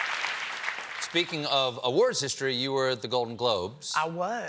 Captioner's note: cheers and applause